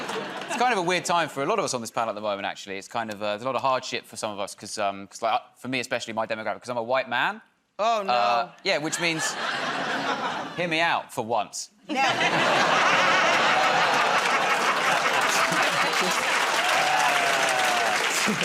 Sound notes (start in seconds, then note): 11.9 laughter; 15.3 laughter and applause